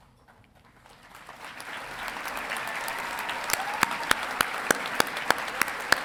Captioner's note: audience applauding and cheering